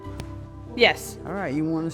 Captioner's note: pop In Sound